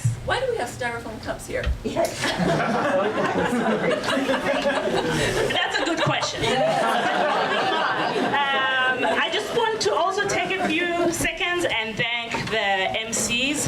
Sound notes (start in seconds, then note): 2.1 audience laughs